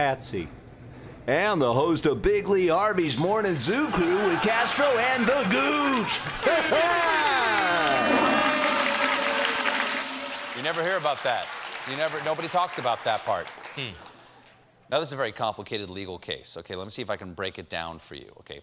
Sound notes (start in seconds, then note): 5.9 boing; 5.9 toilet flushing